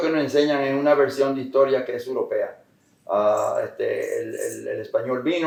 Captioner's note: Spanish